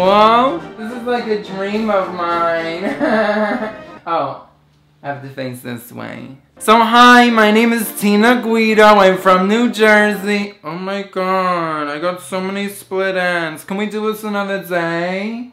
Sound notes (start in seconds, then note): 2.7 laughing